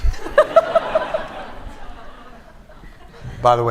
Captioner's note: laughter